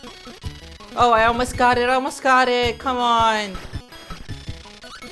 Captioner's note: exasperated